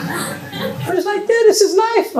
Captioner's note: laughter